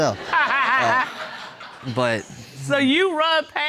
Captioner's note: judge laughing